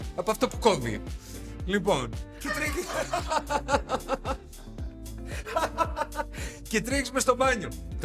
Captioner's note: laughter